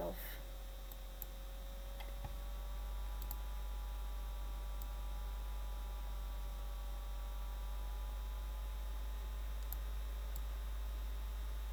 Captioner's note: laptop whirring